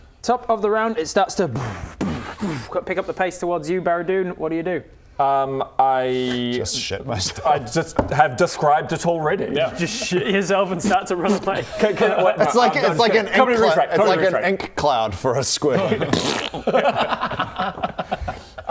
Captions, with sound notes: top of the round it starts to *boom boom boof* pick up the pace towards you Baradun, what do you do? I... just shit myself I just have described it already yeah just shit yourself and start to run away Can...wait no it's like an - ink cloud - Comedy retract comedy retract it's like an ink cloud for a squid *pfffpt*